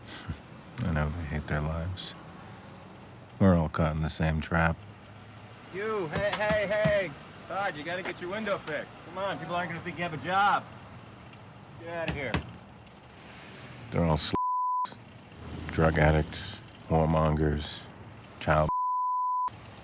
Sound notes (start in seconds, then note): 0.0 chuckles; 6.1 hand tapping; 12.0 hand thudding